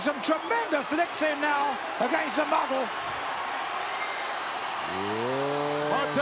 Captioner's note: crowd cheering